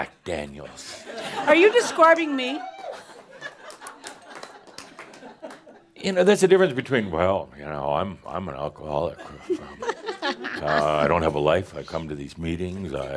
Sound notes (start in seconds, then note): 1.0 laughter; 3.0 more chuckles